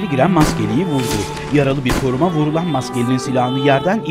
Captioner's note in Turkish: Silah sesleri